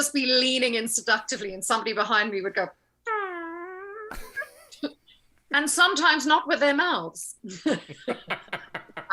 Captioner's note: farting sound